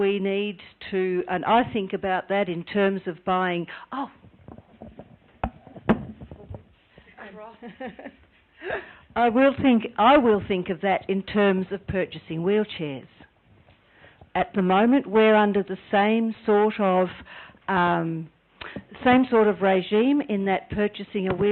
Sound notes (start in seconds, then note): 7.4 laughing